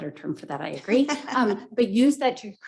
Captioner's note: header laughs